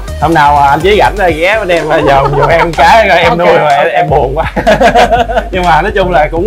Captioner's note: laugh